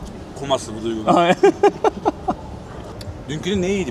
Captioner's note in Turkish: kahkaha